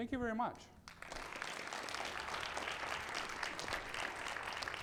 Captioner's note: audience applauding